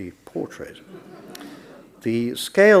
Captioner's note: audience laughs